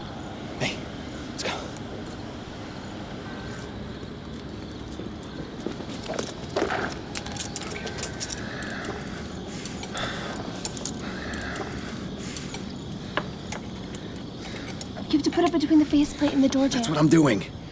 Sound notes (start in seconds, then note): 10.3 knives clattering